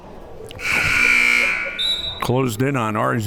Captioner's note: buzzer ringing; whistle tweeting